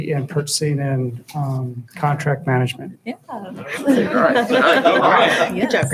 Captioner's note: laughing